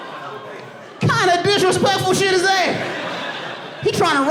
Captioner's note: audience laughing and applauding